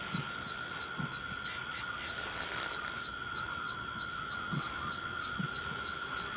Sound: insects flying and flapping

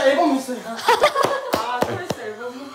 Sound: laughs

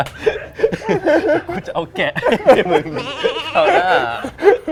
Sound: laughs

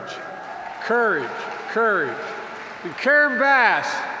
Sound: applause

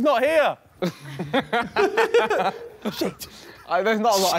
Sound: laughing

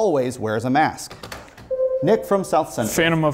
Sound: buzzer sounds

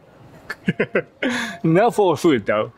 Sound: chuckles

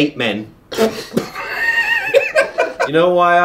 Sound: laughing

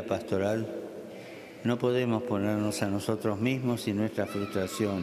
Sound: speaking Alternate Language

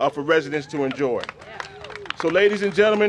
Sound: cheers and applause

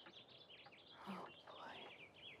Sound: whispers

